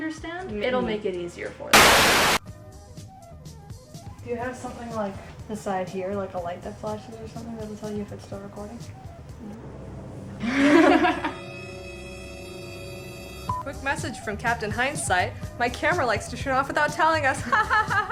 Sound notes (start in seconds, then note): 1.7 television static; 9.3 dramatic music; 10.2 laughs